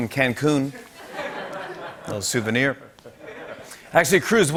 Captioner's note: laughter